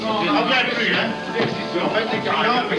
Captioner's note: speaking french